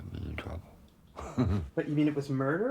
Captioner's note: laughs